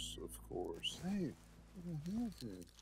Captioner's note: speaking Spanish